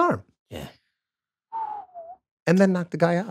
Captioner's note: Glenn whistles